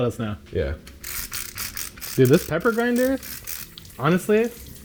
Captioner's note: grinder cranking